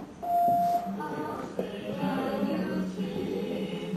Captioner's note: beep sound